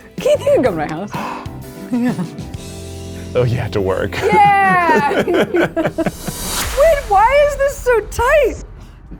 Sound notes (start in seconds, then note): 0.9 exclaiming in excitement; 4.1 people laughing